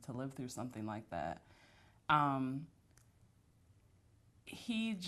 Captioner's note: pauses for 3 seconds